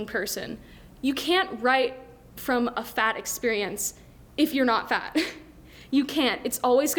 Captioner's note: laughs